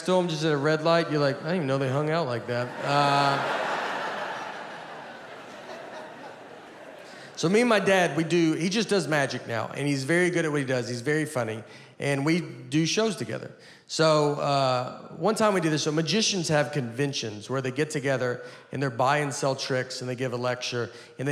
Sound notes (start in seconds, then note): 3.6 audience laughing